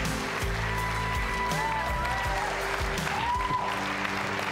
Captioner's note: audience cheers